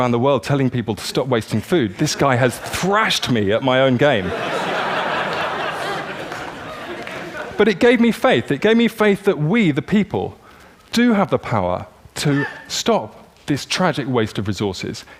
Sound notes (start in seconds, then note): 4.2 laughter